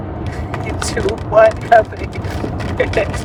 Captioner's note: laughs